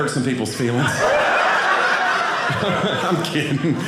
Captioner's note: audience laughing